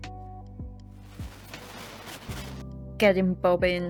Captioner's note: fly noises